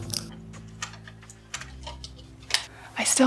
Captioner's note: tools clicking